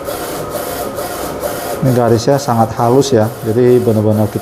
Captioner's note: printer machine noise